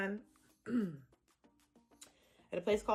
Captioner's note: clears throat